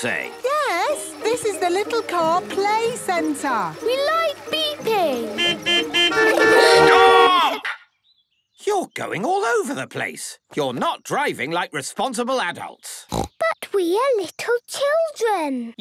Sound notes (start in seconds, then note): 5.0 horns beeping; 13.1 snorting